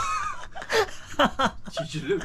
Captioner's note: giggling